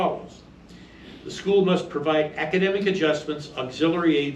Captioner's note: reading from paper